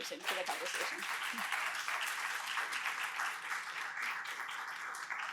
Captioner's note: applause